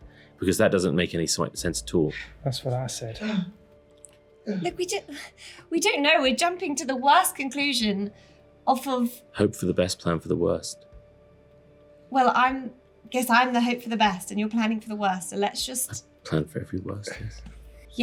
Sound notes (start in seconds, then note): 3.2 gasping